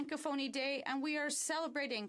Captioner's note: speaking French